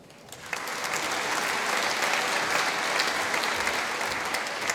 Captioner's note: applause